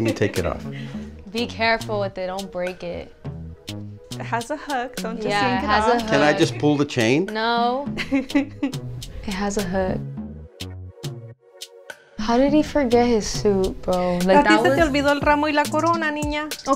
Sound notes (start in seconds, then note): 7.9 laughing; 15.2 speaking Spanish